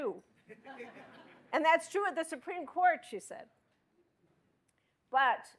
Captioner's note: laughter